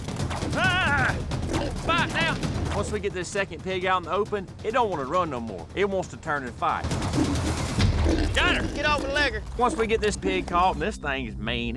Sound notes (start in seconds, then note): 0.2 shouting; 6.9 hog snorting